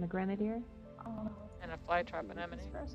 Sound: sounds of awe

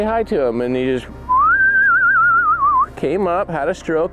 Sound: whistling

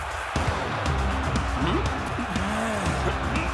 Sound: grunting

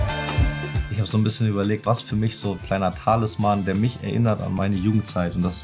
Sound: cheery upbeat music; speaking foreign language

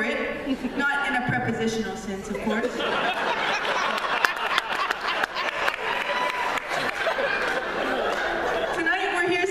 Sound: laughter

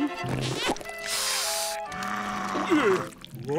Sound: hissing, growling

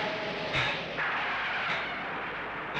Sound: brakes squeal

